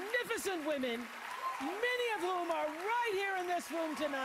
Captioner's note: applause